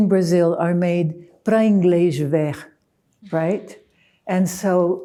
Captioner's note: speaking in foreign